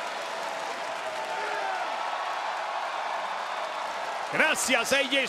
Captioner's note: applause